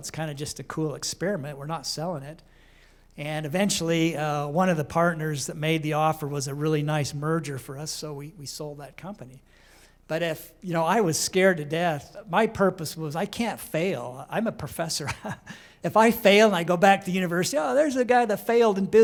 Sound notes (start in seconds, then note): 15.0 laughter